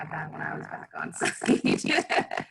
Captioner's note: laughs